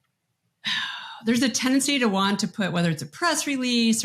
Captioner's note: sighs